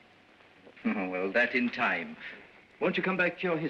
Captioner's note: chuckles